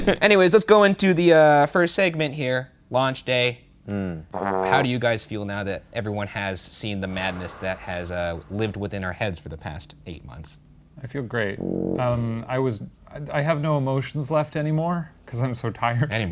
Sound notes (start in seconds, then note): 0.0 both laughing; 12.4 horn honks